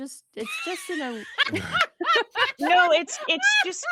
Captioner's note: laughs